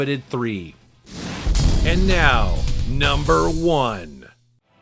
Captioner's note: explosion rumbles